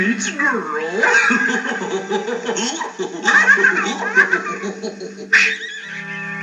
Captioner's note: giggling